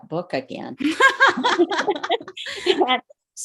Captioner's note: laughs